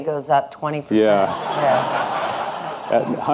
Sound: audience laughing

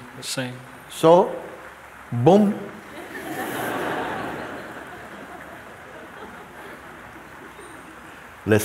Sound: laughter

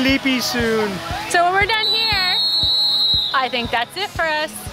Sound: whistle

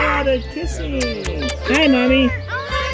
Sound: kissing noises

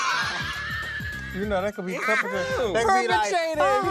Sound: laughs

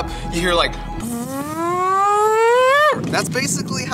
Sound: siren noise with mouth

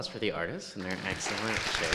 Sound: applause

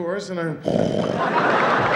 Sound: snoring

